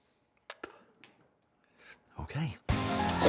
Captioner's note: Waco spits